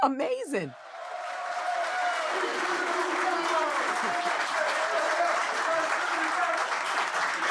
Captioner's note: cheering and applause